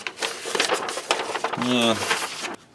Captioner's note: paper rustles